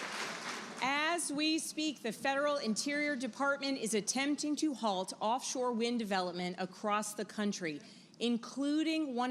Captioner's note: applause